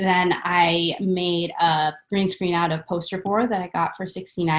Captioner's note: none